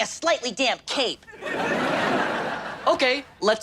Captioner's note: audience laughs